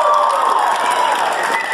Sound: cheering

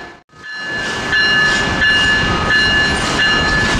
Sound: bells resume

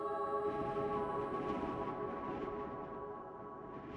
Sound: wind whips

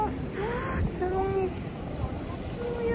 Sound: gasp

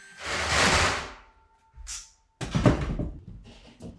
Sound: boards banging; nail gun sounds

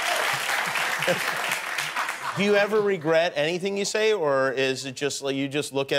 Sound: cheers and applause

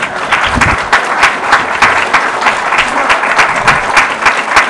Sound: audience applause

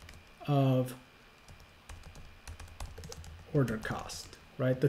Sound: keyboard tapping

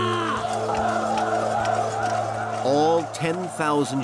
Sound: soldiers chanting

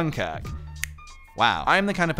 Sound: snap

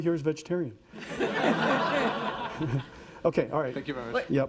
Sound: audience laughing

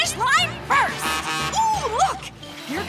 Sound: honking

